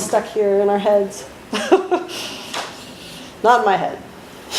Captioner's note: laughs